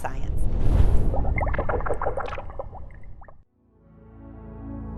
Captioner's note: liquid bubbling; peaceful music